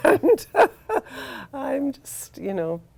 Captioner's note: laughs